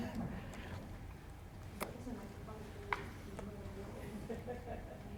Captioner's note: audience chatting